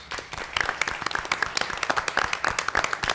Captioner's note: applause